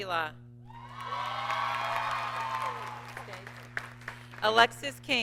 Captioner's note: audience cheers and applauds